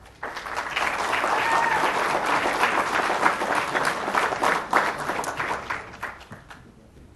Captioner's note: applause